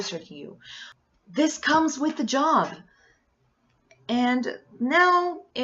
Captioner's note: sharp inhale that leads nowhere